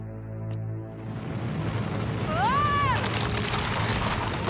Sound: rumbling

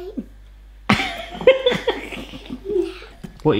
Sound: laughs

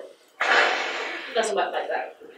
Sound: sighs

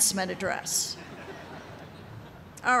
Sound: laughter

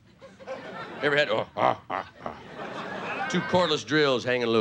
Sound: playful grunting

